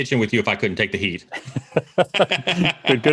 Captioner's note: laughs